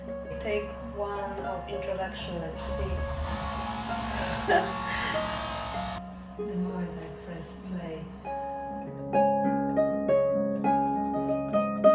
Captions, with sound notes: Take one of introduction, let's see... [electric drill noise] [laughs] [honking] The moment I press "play"...